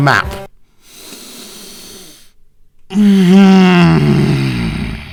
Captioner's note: sighs in frustration